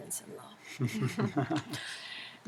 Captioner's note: laugh